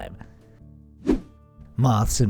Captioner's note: air whooshing